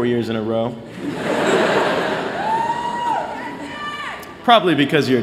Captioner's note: laughter